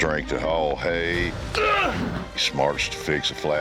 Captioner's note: grunts